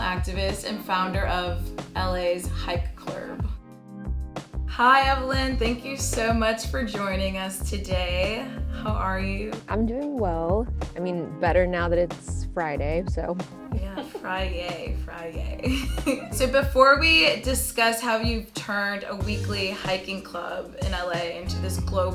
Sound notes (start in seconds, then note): 13.7 giggles; 16.7 chuckles